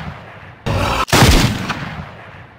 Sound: speaks ANGRY ugly hair language

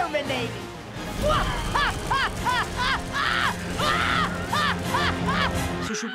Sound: laughing evilly

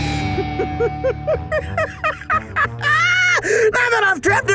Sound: Rowdy Raccoon laughs

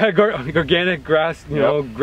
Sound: chuckles

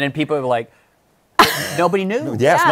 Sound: laughs

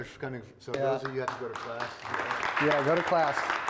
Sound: attendees applauding

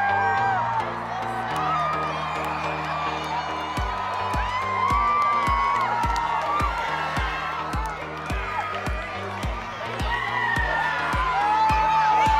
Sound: wild cheering; upbeat techno music; wild cheering

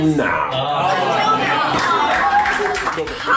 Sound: cheering

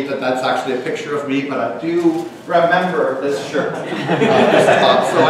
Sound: audience laughs

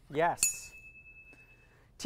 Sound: ding

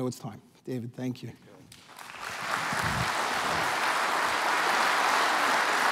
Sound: applause

